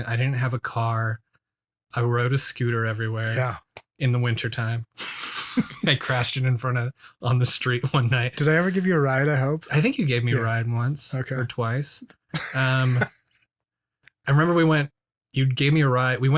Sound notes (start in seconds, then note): 5.0 both laugh; 12.3 laughs